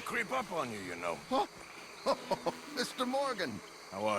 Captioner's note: laughs